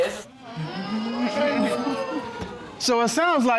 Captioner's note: audience exclaims